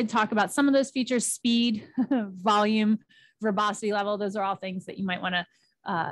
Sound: chuckles

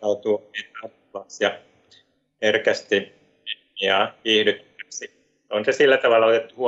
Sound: voice is cutting out

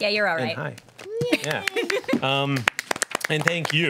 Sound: group applauds

